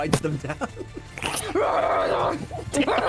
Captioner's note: laughing; growling